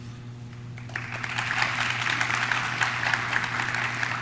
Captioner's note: audience claps